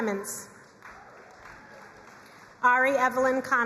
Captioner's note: crowd cheering and applauding